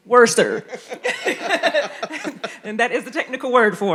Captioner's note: panelists laughing